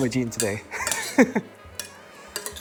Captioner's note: chuckles